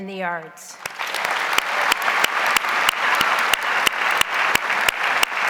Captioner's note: audience applauds